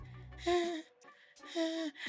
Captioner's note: sighs